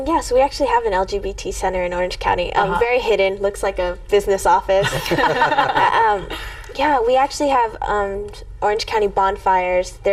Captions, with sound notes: - Yes, we actually have an LGBT center in Orange County. Very hidden, looks like a business office. (everyone chuckling) Yeah, we actually have Orange County Bonfires.